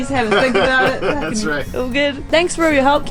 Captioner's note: laughs